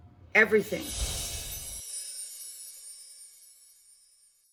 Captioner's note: bells chime